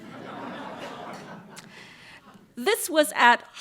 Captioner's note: laughter